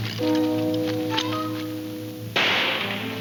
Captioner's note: gun firing